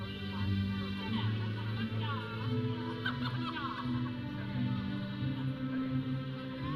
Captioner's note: audience chattering; processional music